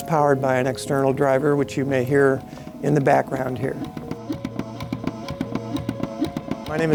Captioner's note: mechanical heart beating